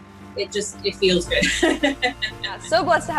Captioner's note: laughs